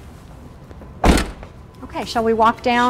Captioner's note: door slamming shut